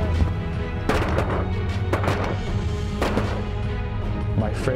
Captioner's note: gun shots